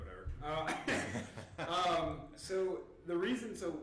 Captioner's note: laughing